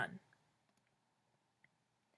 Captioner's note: clicking sound